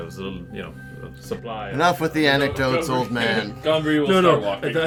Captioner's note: loudly interrupting